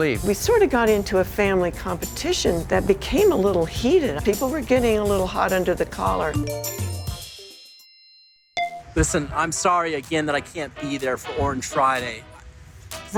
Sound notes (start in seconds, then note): 6.4 phone chimes